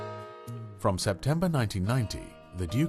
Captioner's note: voiceover